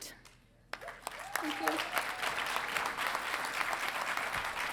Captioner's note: audience applauding